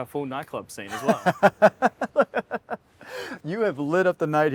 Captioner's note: laughing